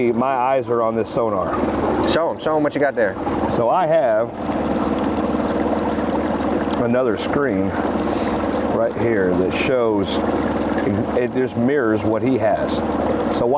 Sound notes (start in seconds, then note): 5.2 engine idling; 5.2 river babbling